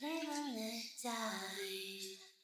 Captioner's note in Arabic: باللغة الإنجليزية